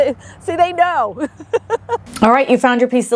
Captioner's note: laughs